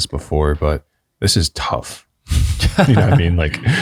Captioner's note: all chuckling